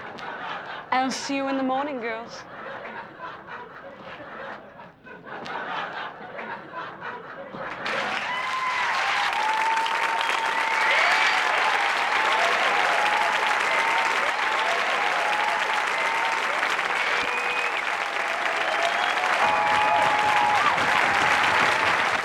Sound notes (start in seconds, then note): 2.1 audience laughing; 7.8 applause, whistles, and shouts